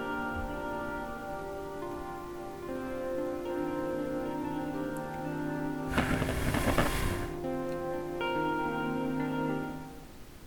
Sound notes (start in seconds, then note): 5.9 blowing out the candle